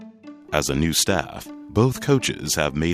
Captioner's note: voiceover